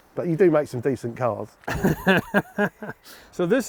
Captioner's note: laughing